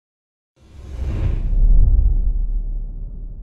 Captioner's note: whooshing